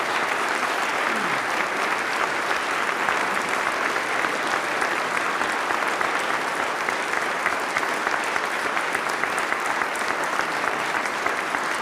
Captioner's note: applause